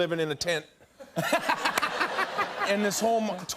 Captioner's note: laughter